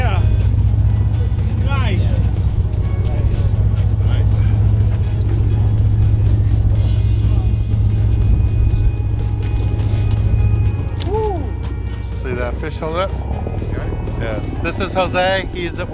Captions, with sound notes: Yeah! Nice! Nice! Nice! [background music] [sound of boat engine] [shouting excitedly] See that fish there? Yeah. This is Jose.